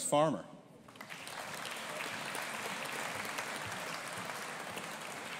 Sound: audience applauding

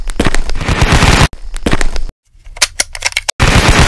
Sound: gun noises

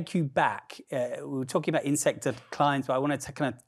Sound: murmurs

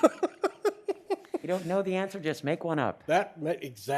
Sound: laughter

